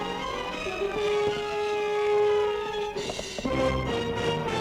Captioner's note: horses clopping